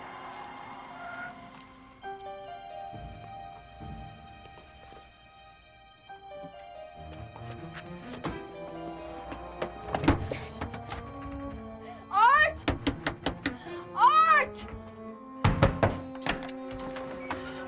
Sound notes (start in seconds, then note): 0.1 tires screeching; 5.8 suspenseful music; 12.4 knocks